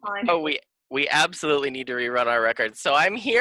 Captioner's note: sarcastically